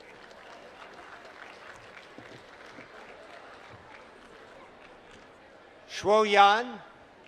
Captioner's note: applause